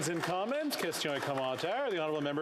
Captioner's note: applause